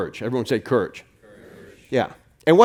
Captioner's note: crowd